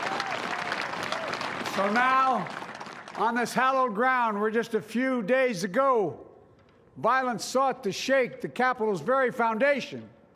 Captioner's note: applause